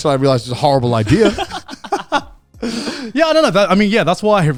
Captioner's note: both laughing